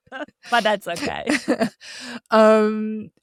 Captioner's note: chuckling